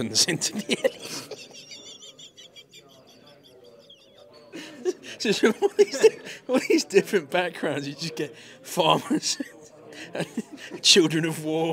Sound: laughs

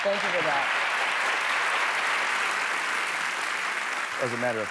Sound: applause

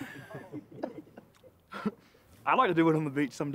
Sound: laughs

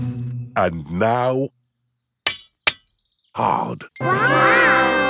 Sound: shovel clanks

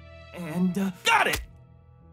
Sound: none

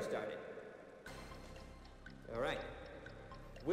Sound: countdown clock ticking

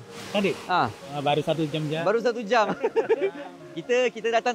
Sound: laugh

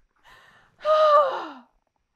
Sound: dramatically sighs

